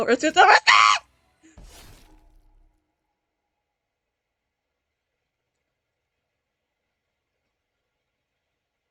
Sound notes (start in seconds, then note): 1.5 machete go stabby stab